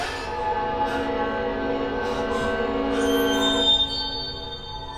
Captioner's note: Casey gasping; intense music; Casey breathing heavily